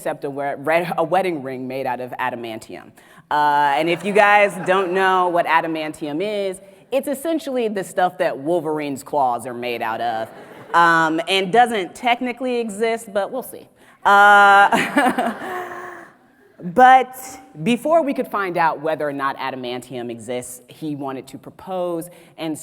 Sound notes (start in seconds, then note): 3.6 audience laughs; 14.7 audience laughs; 14.7 laughs